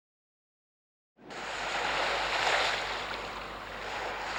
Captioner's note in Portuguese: Ruido de onda de praia